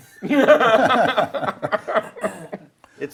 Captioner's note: group laughs